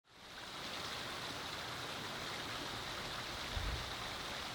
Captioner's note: water flowing